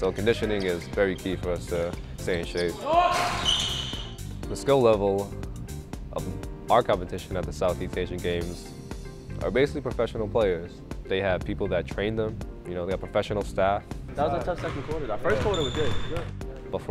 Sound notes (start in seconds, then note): 2.7 shouting